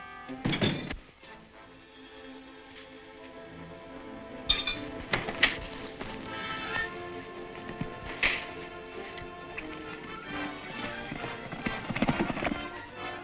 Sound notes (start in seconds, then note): 0.0 horse galloping; 0.2 guards thud; 2.3 exciting music; 9.7 horse galloping